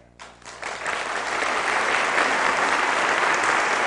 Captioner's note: applause